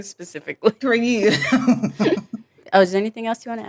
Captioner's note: chuckles